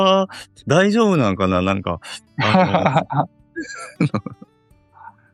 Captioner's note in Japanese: 苦笑